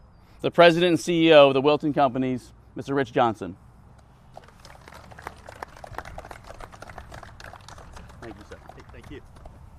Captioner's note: applause